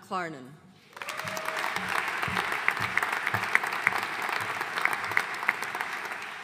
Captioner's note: audience cheering and applauding